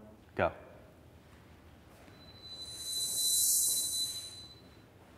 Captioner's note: rising whoosh